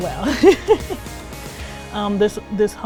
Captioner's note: laughing